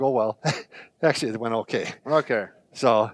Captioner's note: laughs